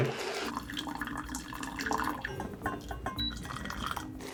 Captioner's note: water pouring